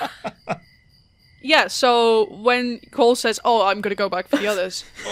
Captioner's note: laughter; laughter